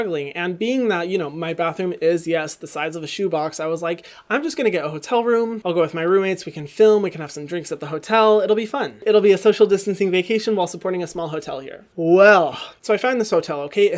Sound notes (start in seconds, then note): none